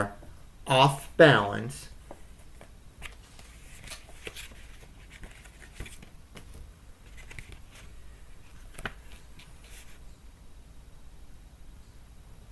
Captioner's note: light rustle of pages turning